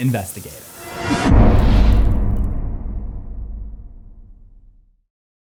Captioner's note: impact